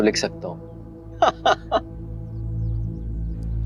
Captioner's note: laughing